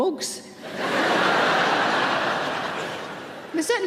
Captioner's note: audience laughing